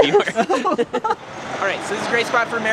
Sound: all laugh

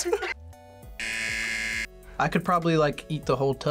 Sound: buzzer

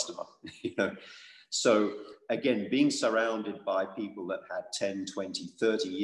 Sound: laugh

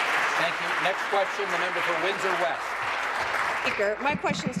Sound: voice trailing; applause

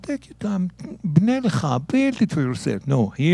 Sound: speaking in Hebrew

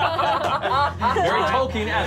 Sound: laughing

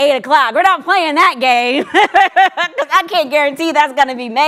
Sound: laughs

